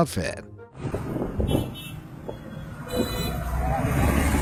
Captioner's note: car horns honking